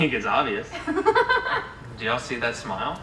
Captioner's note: laughing